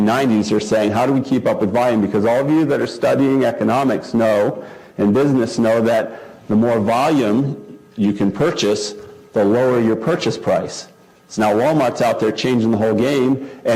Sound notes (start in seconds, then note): none